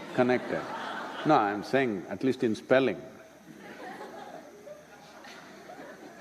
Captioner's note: laughter